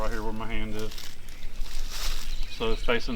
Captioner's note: birds chirping; rustling leaves